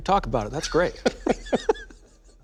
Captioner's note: laughter